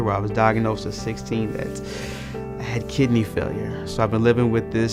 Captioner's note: inhales